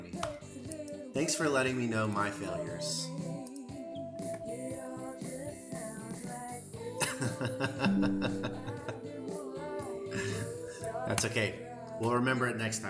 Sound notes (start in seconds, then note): 6.8 singing and music; 9.7 laughter